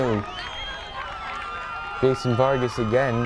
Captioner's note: crowd cheering